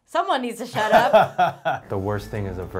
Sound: laughing

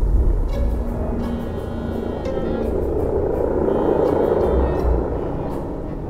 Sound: engine humming; pensive music

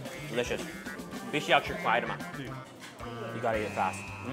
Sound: speaks in Chinese

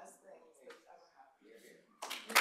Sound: applause

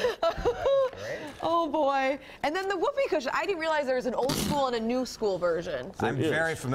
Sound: laughter

